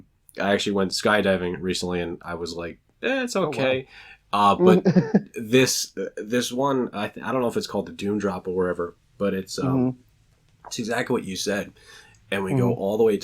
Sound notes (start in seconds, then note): 4.6 laughs